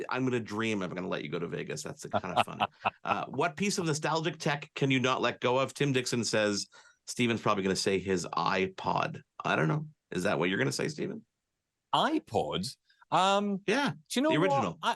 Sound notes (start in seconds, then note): 2.1 laugh